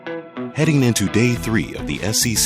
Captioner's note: voiceover